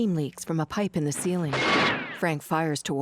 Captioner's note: gunshot